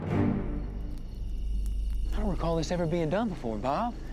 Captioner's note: crickets chirping